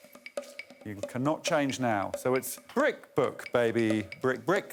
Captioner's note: blows whistle